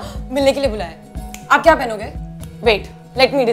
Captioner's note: Snapping fingers